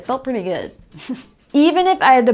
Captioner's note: chuckles